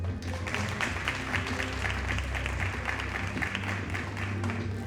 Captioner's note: audience applauding